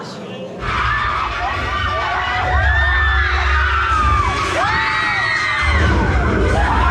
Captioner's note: riders scream